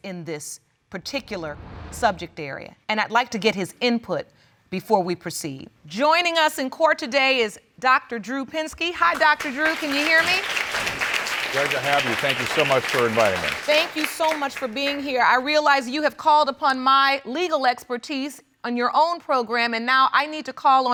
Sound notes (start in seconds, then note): 9.0 audience applauding